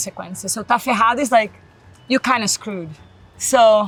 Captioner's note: speaks Portuguese